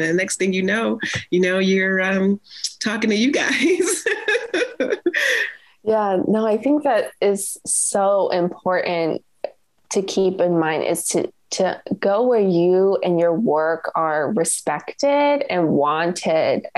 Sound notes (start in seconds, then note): 3.4 laughs